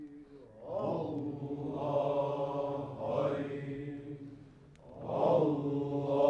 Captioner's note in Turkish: Hep bir ağızdan